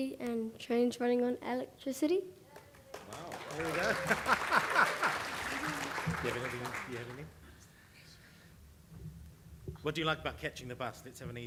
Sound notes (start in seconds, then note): 3.4 chuckles; 5.2 audience applauding